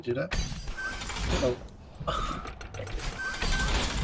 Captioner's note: sigh